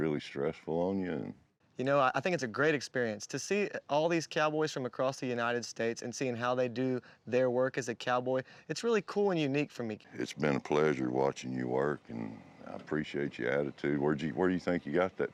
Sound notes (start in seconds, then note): none